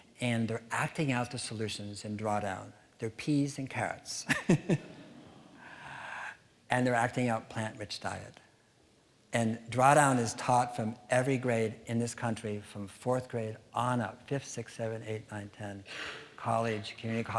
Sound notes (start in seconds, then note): 5.7 laughing